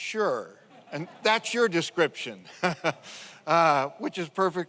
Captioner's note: laughs